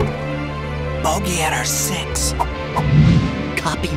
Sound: whispers

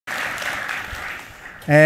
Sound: applause

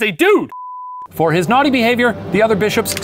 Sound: beep; dramatic music

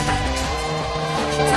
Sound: train horn blaring

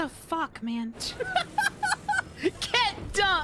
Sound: laughter

